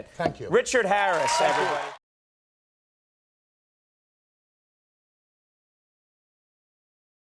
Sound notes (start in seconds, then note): 0.9 audience cheering